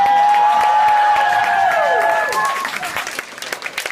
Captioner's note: cheering